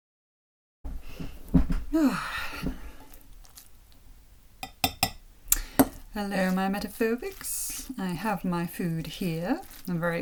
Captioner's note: contented sigh